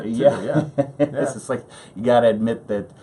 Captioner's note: laughs